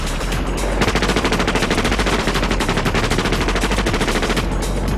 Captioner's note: weapons firing